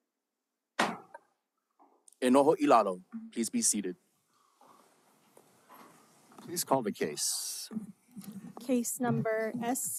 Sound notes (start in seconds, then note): 0.8 gavel bangs once